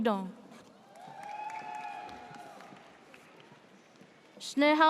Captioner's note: audience cheers